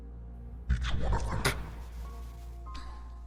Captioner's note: pffft